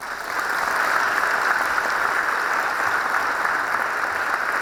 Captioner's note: audience applauding